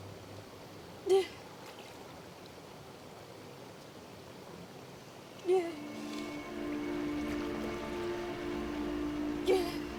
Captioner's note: soft crying